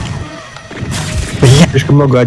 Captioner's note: unexpected shotgun